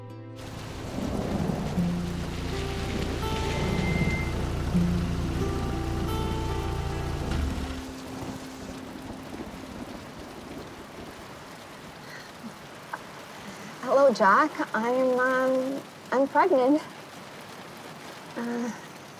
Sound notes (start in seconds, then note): 0.2 rain pattering; 2.8 thunder rumbling